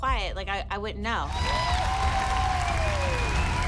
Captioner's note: applause